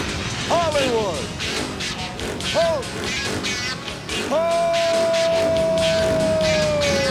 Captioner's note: motorcycle engine revving